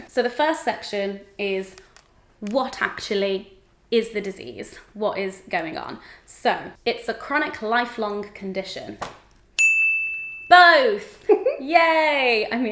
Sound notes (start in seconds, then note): 9.6 bell dings